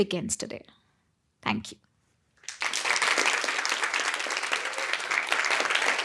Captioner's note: audience applauding